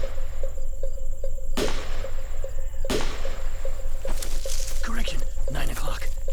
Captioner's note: gunshots